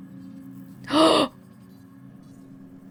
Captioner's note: gasps